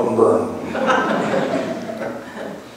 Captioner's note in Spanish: laughs